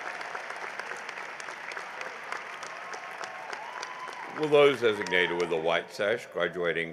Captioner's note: cheering and applause